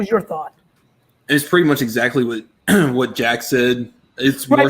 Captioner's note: clears throat